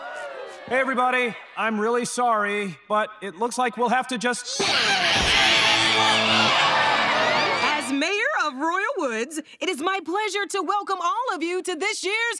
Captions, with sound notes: Hey, everybody. I'm really sorry, but it looks like we'll have to just... [screaming] As Mayor of Royal Woods, it is my pleasure to welcome all of you to this year's...